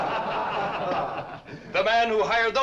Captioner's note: laughter